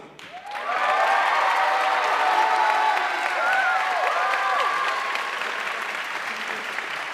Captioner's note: audience cheering and applauding